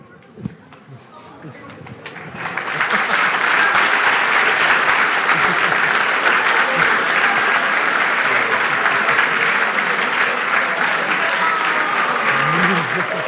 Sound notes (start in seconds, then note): 2.2 applause